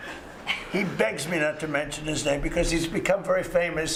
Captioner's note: laughter